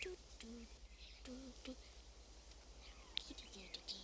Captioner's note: humming